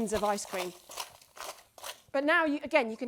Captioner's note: ice cream crystals crunching